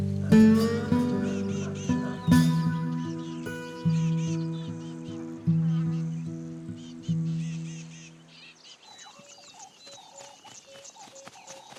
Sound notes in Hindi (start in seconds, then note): 1.0 चहचहाहट